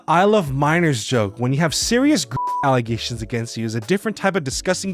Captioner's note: beeps